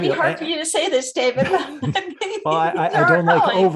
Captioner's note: laughs